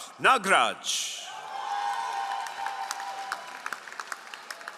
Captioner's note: all applauding